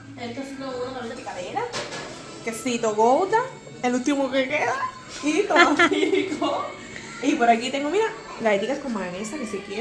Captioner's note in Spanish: risas